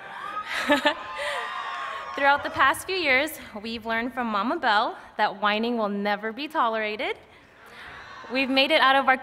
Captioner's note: laughter